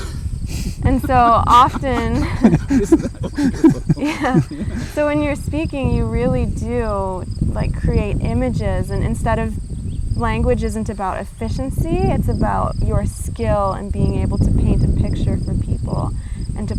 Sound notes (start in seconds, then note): 2.3 laughing